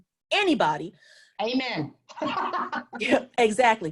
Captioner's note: laughs